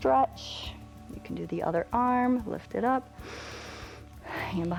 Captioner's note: inhales